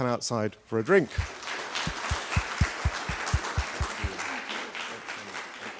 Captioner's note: audience applauds